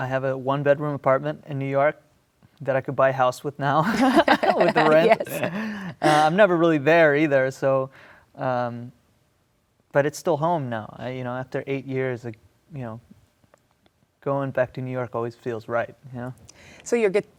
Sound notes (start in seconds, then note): 3.8 laughing